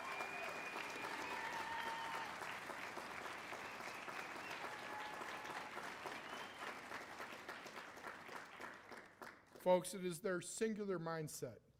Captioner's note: applause; cheers and applause